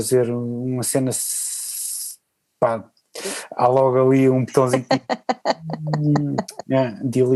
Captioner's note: laughs